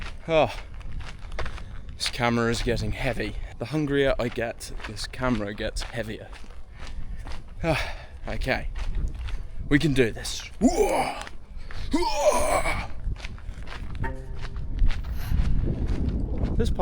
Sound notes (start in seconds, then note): 13.5 warcry